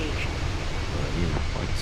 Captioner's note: radio chatter